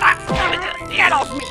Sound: kick

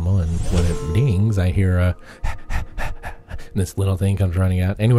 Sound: panting sound

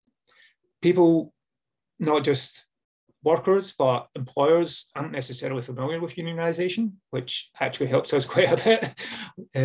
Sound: laughs

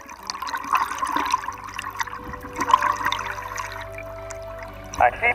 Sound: deep breathing; upbeat classical music; water bubbles bubbling

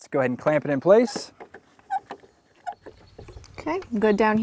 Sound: high pitched squeak of metal-on-metal clamps, no additional audio

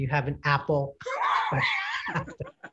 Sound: laughs

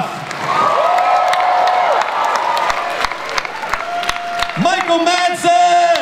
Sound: audience cheering

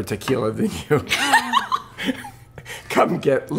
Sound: laughter

